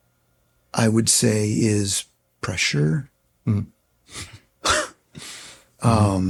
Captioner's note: chuckles